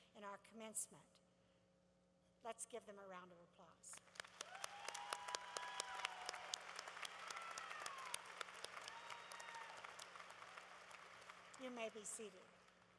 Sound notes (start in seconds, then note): 4.9 applause